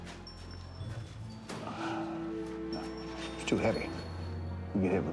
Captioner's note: sighs